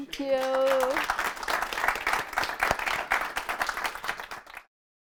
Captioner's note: audience clapping